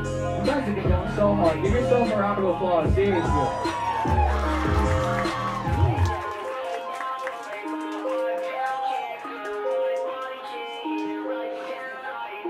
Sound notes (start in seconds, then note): 3.0 crowd cheering